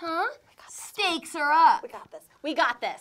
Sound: whispers

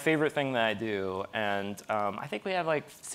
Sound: none

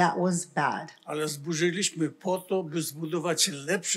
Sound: foreign language

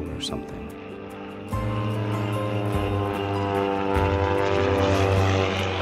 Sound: airplane engine rumbling

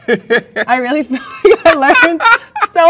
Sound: man laughs; laughs

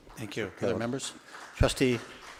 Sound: overlapping chatter

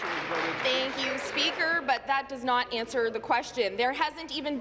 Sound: applause

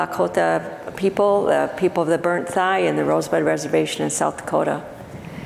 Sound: foreign speaking

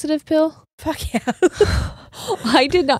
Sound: giggles

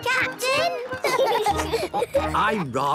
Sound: laughing

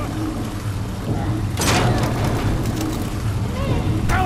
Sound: door shudders; glass cracks

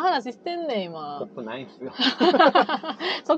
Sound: laughs

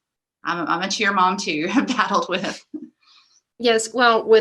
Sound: laughs

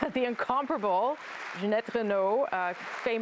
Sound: applause

